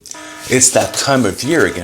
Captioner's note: emergency alarm sounds